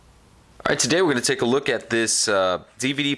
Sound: voiceover

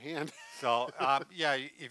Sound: chuckles

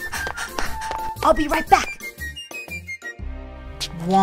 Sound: running breathing noises

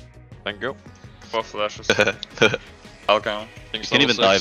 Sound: chuckles maniacally

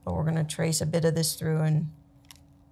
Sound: none

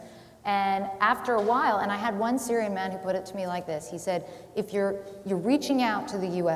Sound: none

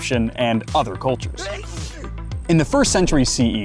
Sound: Egyptian sneezes

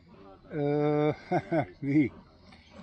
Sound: laughs

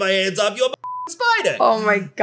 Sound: beep

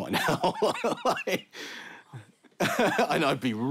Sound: chuckles

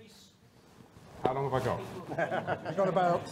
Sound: audience laughing

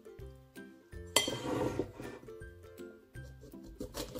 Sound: kitchen sound

